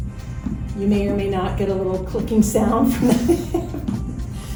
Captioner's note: laughing